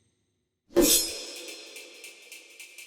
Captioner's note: slash of blade